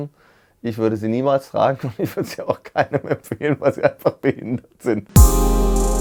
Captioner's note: laughs